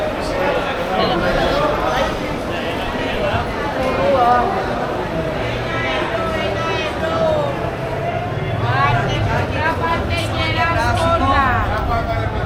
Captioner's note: crowd chattering